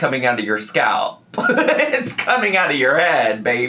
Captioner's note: laughs